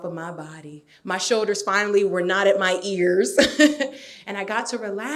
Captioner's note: laughs